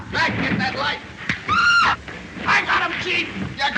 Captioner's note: scuffle, screaming